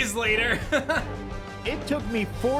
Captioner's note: laughs